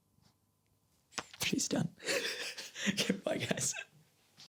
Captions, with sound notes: She's done. (laughs) Okay, bye, guys.